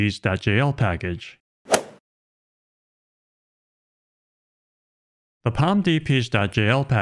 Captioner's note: golf ball hit sound effect